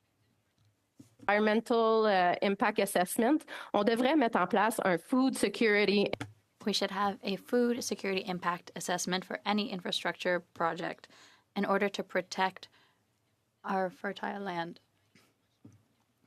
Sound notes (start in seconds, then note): 9.6 speaking French